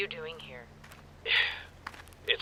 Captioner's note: sigh